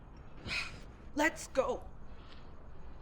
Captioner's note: sighs